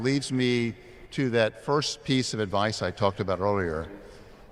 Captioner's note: none